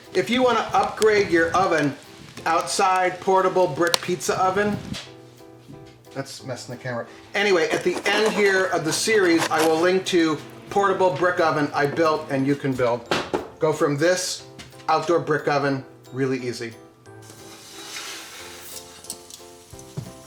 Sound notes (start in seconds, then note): 13.1 knocks; 17.2 pizza sizzles